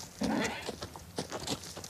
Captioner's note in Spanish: Relinchos